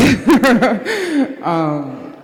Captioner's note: laughs